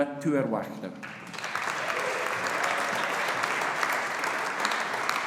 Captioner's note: audience applauding